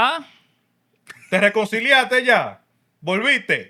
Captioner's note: speaking Spanish